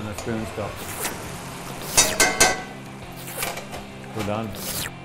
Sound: licking sounds

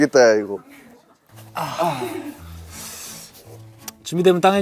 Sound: groans

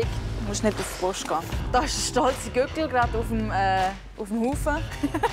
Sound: laughs

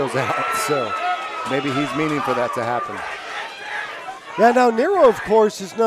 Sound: laughs

